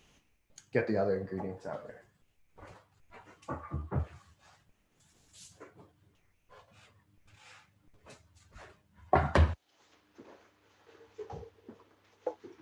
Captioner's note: silence